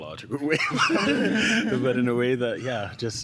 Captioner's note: laughter